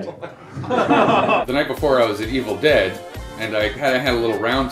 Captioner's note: laughter